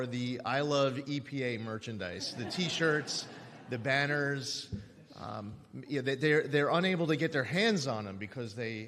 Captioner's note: laughter